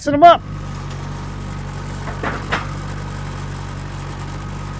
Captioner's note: engine rumbling